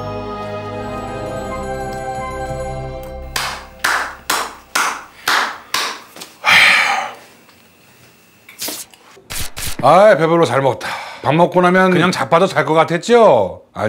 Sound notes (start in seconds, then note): 6.4 sighing